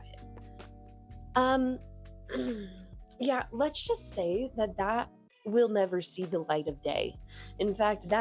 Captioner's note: ahem